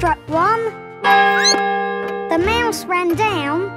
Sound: clock chimes; squeaks

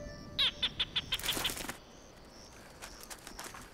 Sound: gecko chirping

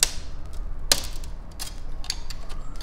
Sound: crack

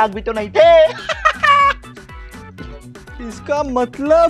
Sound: laughing

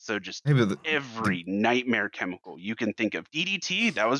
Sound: stammers

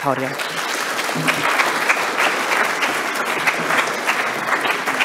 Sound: audience applauding

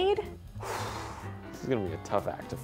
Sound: exhales forcefully

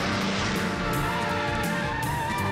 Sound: car rumbles

